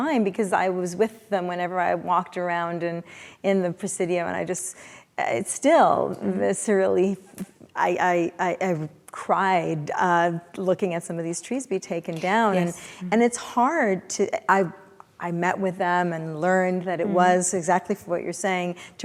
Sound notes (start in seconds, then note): none